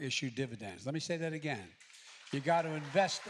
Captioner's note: applause